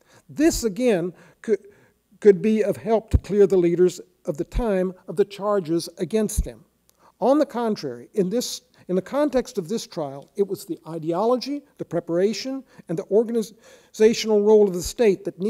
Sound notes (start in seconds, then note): none